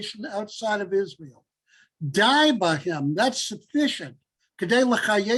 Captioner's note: Hebrew